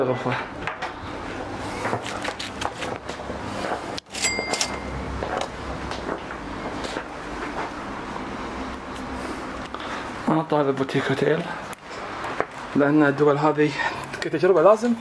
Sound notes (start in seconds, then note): 4.0 cash register dings; 10.3 speaking foreign language